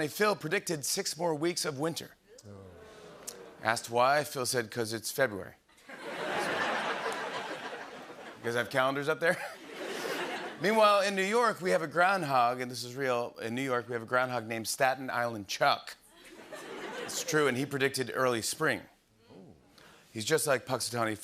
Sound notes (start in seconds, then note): 2.4 audience groans; 5.8 laughter; 16.2 laughter